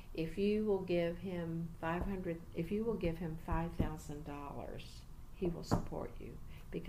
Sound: resumes tapping table

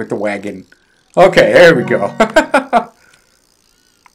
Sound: chuckling

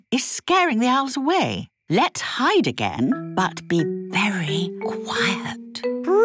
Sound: whispering

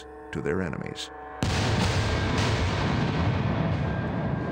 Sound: explosion

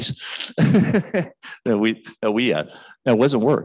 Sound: man chuckles

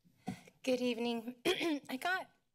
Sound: clears throat

